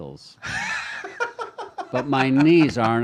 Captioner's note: laughs